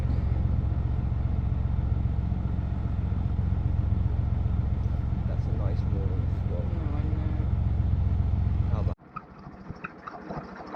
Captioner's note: narrowboat engine sounds